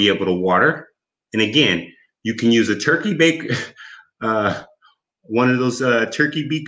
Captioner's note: chuckles